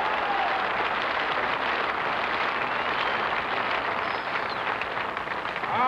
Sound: cheering and applause

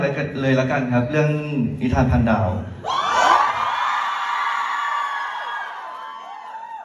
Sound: ปรบมือ

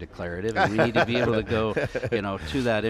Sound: laughs

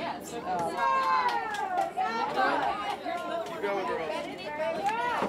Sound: crowd noise; crowd noises

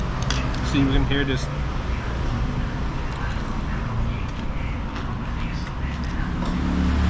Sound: crunch crunch

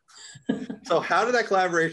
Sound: chuckles

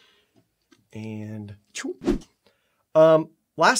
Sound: throwing sound

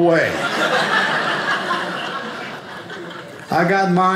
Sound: audience laughing

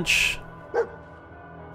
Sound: woof!

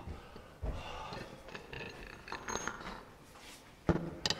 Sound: gasping

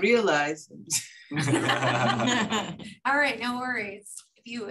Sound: laughter

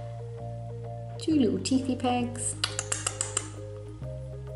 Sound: nibbling sound

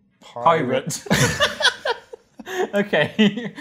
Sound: laughter

